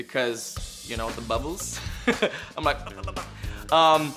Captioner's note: laughs